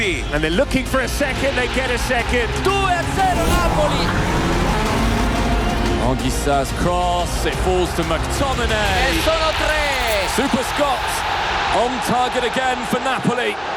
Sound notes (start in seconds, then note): 4.2 Kart sound